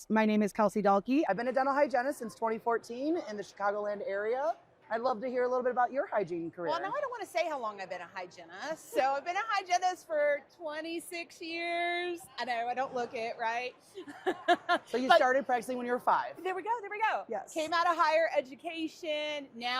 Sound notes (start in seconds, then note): 14.0 laughing